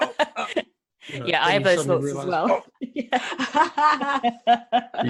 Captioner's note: laughs